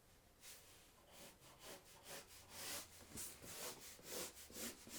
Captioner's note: pencil scratching